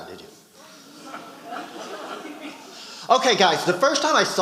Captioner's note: audience laughing